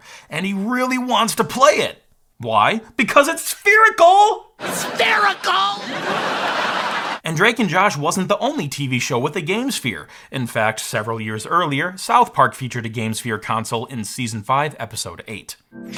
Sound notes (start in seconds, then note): 6.1 audience laughing